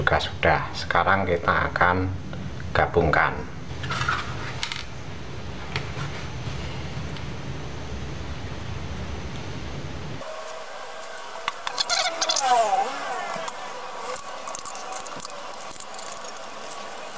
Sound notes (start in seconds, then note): 10.3 clap